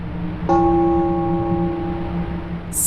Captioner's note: bell ringing